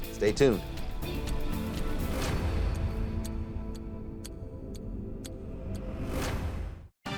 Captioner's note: clock ticking; upbeat music